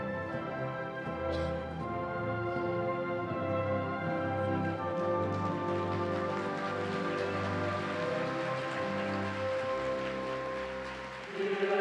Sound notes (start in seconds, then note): 6.4 audience applauds